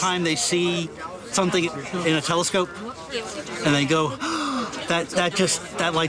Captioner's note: gasp